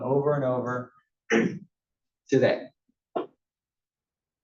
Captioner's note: cough